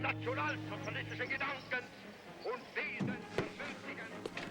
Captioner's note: speaking german